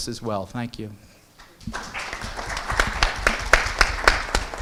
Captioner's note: applause